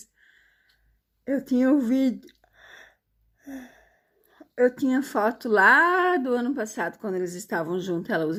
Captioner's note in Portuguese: suspirando